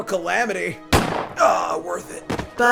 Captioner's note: gunshot